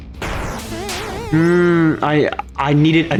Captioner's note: angry noises